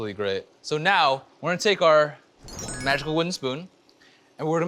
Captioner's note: fairy dust magical sound